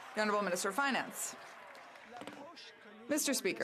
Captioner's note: some Applause